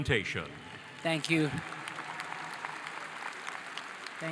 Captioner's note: audience applauding